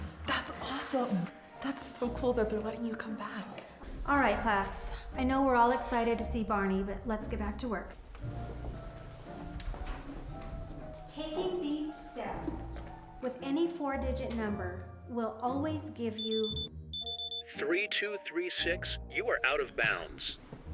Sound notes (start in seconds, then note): 8.7 soft gentle dramatic music; 16.2 bracelet beeping